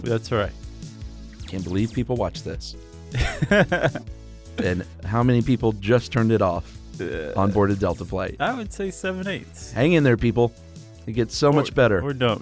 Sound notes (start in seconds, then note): 3.1 laughs